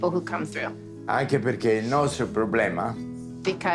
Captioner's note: Dario speaking Italian